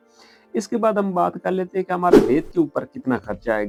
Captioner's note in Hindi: नाक से की जाने वाली आवाज़